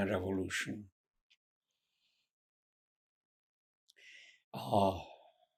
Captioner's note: pauses 6 seconds